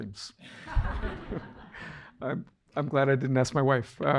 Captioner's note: audience laughing